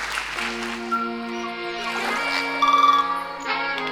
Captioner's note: crowd applauding; nature sounds